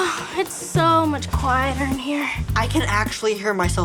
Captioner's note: sighs